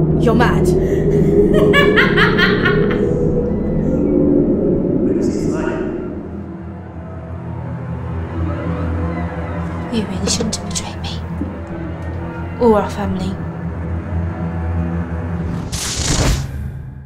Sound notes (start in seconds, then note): 1.0 laughing; 13.7 tense music